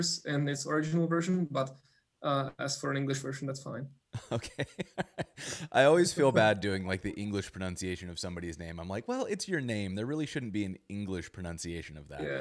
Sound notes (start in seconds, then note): 4.2 laughs